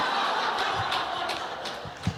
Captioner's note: laughter